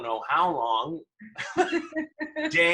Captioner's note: laughter